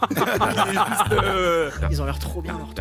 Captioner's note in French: rires